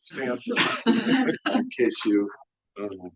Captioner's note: audience laughing